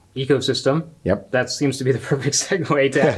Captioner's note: chuckles